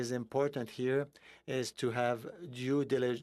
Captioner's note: speaking in French